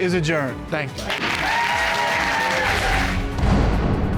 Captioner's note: audience applauding; dramatic music playing